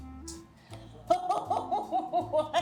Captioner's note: laughing